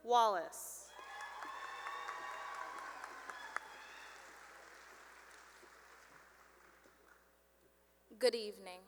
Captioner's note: cheering and applause